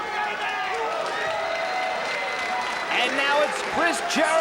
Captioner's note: crowd cheering